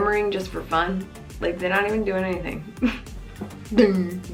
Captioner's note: scoffs